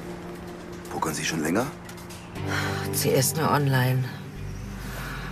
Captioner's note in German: seufzt